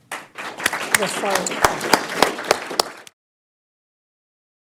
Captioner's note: attendees clapping